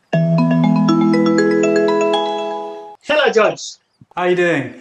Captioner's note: ringing